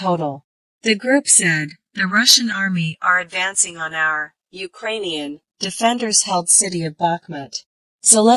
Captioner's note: Ukrainian